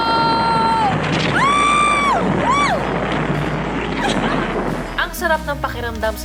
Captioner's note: screams in excitement